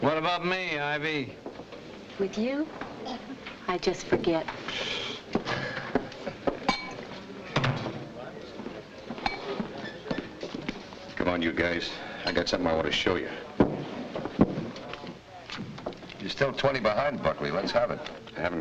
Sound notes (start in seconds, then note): 7.5 door thuds shut